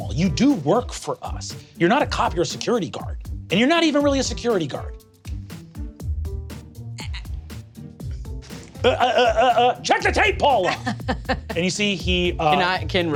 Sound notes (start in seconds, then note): 7.2 stammering; 7.2 stammering mockingly